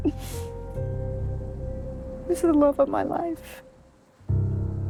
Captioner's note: crying